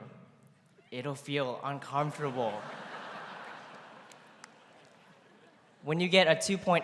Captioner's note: laughter�